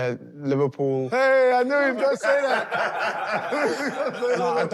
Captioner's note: laughter